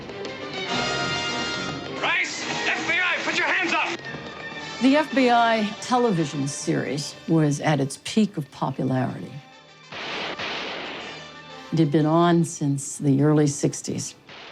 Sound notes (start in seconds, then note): 0.1 dramatic music; 9.9 gun shots